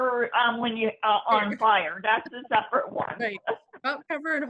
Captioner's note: laughing